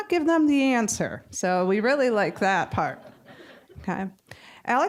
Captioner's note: audience chuckling